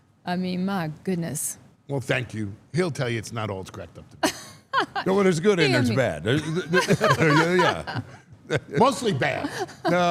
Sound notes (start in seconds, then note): 4.2 laughs; 6.4 laughs